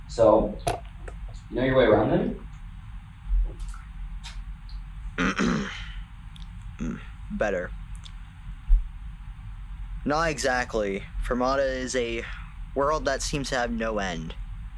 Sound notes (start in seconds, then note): 5.2 clears throat